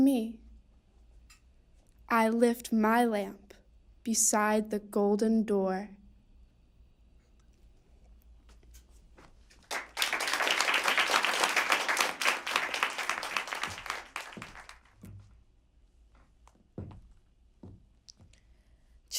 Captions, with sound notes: I lift my lamp beside the golden door!” (applause)